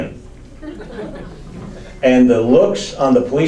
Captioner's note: audience laughs